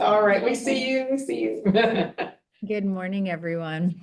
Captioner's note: chuckles